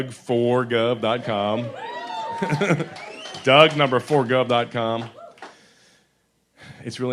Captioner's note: laughs